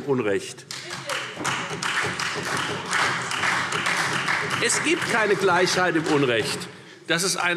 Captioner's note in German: Beifall Freie Demokraten und SPD